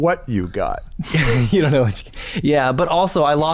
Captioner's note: chuckles